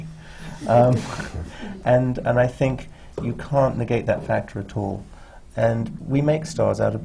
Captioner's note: laughter